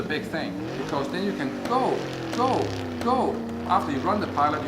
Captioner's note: engine revving